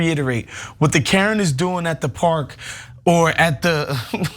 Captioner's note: laugh